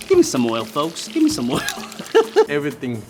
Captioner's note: laughs